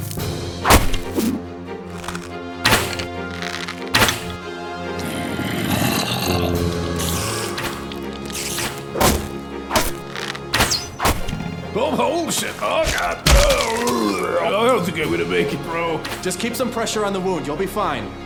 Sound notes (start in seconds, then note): 11.2 pained noises